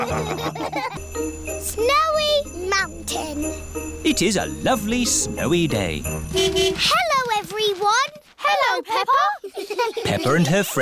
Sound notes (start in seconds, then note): 0.0 laughs; 5.4 horn honking; 8.9 giggling